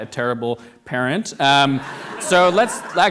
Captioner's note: audience laughing